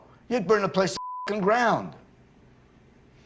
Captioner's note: beep